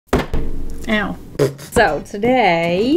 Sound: laughs

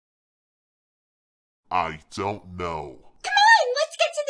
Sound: deep voice

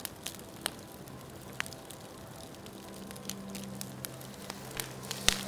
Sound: fire burning

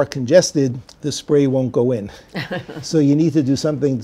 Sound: laughs

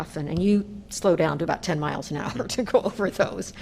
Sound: laughter

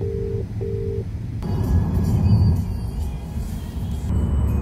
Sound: car sounds and radio music

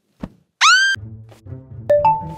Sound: screams

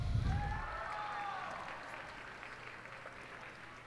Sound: cheers and applause

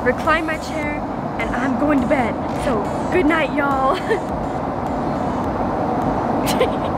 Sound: laughs

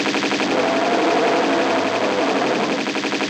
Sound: big roar

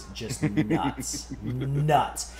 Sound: laugh

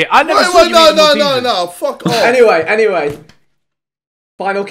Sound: laughing

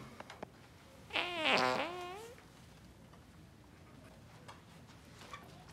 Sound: Mr. Nostrand farting

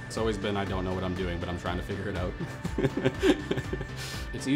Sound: laughs

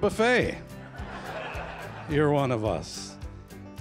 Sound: laughter

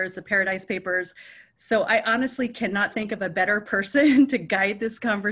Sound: chuckles

